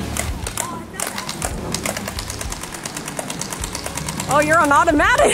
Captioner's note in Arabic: طقطقة البندقية; ضحك